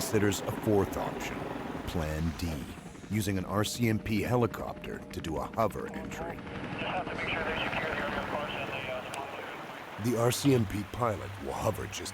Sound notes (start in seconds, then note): 4.7 voiceover